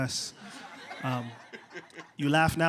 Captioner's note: laughter